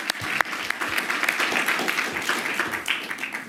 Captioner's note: applause